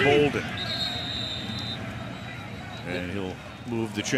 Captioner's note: whistle blows